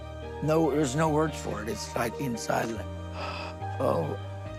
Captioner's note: gasps